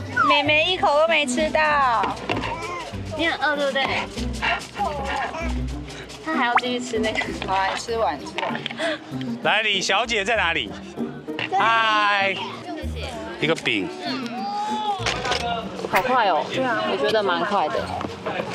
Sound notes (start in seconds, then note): 3.7 continues eating